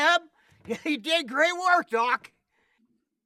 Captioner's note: sighs